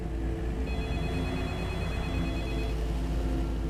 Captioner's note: phone ringing